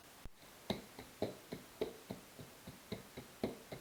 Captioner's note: footsteps